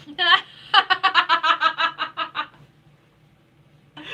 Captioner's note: laughing